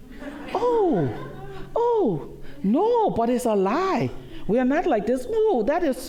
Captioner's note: laughter